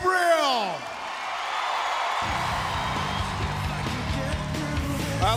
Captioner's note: crowd cheering